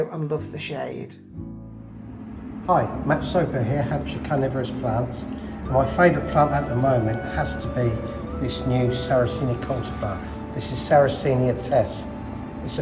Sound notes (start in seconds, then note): 3.3 greenhouse humming; 6.2 pleasant music